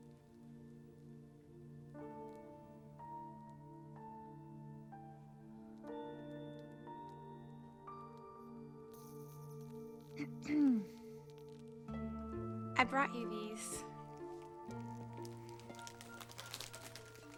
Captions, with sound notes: [LEE CLEARS THROAT] I BROUGHT YOU THESE.